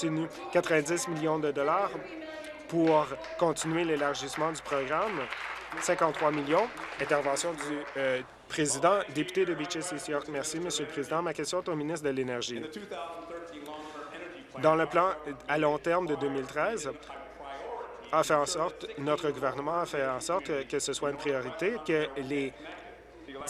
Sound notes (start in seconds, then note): 7.6 applause